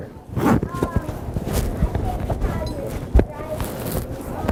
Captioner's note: speaking off mic